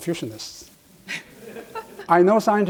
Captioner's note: audience laughs